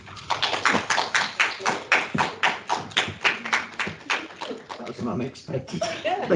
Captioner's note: clapping